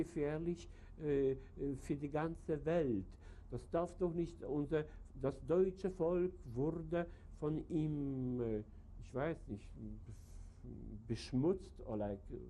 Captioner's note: speaks German